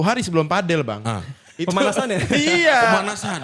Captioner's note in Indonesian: tertawa